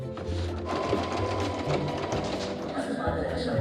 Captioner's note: sewing machine chugging